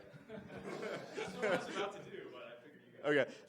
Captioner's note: laughs